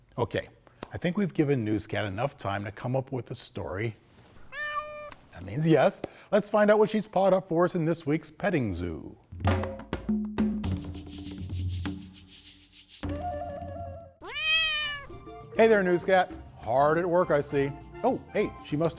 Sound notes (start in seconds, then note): 9.3 rhythmic drumming; 14.2 car meowing